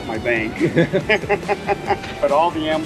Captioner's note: laughs